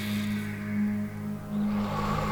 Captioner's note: breath